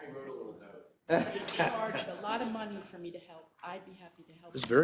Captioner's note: laugh